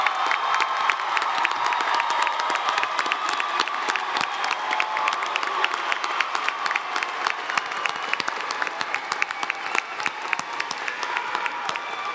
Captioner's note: cheers and Applause